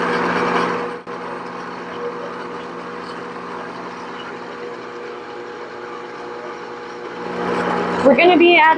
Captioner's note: mixer sound